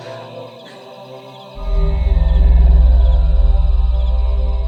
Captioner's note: otherworldly Ringing